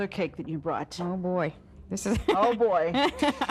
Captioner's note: laughing